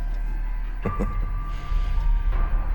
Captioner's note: chuckles